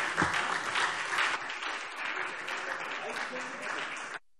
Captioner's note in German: Beifall SPD